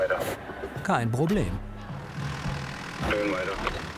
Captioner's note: radio